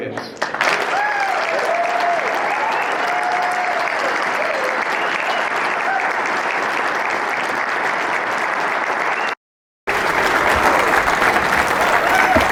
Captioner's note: applause